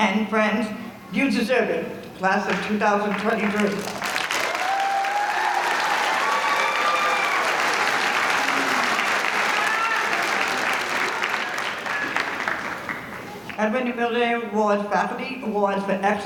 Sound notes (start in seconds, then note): 3.3 audience applauding